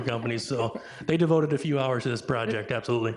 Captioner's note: chuckles; laughing